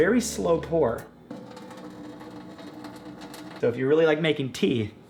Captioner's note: water tapping against sink